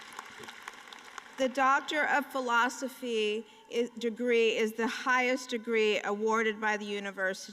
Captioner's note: applause